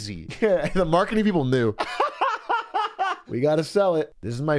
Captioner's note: laughs